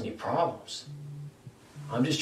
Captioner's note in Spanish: Teléfono vibrando